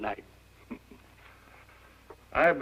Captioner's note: chuckles